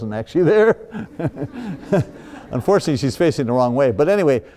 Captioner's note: laughs